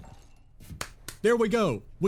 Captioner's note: clap